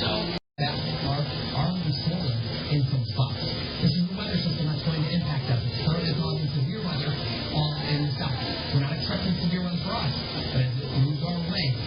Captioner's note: "21Alive News at Noon" plays in background